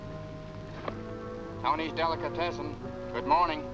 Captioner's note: on phone